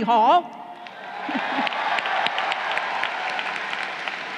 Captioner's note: crowd cheering